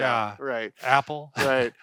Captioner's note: laughs